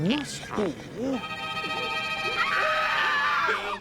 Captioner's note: screaming